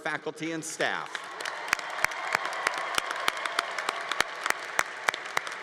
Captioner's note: congregation applauding